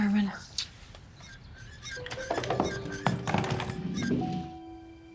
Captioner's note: blows a kiss; creaking